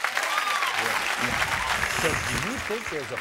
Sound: audience applauding

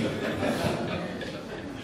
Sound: audience laughs

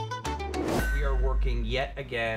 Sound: whoosh

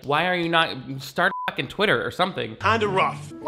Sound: beep

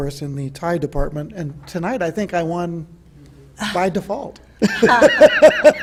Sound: laughs

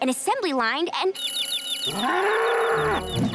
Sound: chirping, mooing

